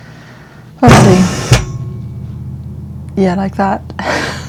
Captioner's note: loud noise